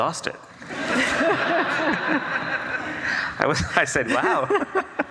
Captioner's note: audience laughs